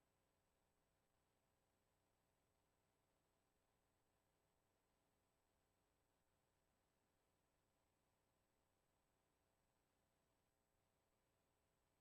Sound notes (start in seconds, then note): none